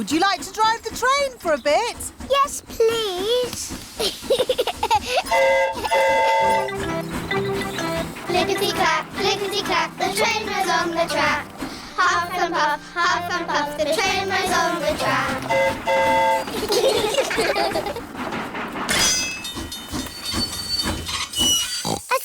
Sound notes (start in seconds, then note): 3.9 giggles; 5.2 train horn toots; 15.7 train horn toots; 16.4 all giggle; 19.6 tinging